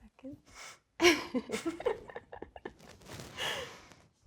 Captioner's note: both laughing